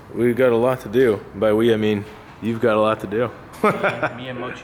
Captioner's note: laughs